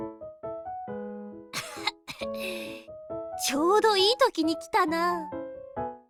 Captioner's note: cough, cough